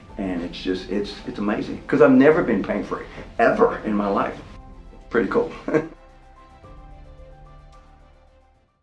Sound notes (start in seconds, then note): 5.3 laughing; 6.1 upbeat music